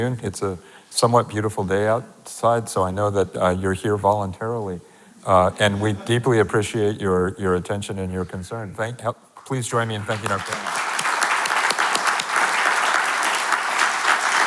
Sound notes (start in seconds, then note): 9.8 audience clapping; 10.0 claps